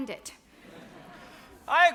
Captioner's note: audience laughs